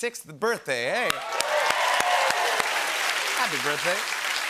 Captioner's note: cheering and applause